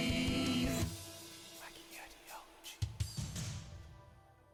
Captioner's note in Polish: szeptem